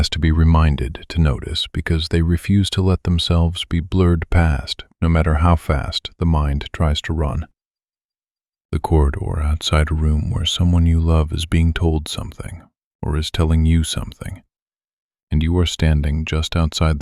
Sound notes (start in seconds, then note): 3.6 low voice